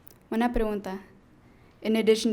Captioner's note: speaking in foreign language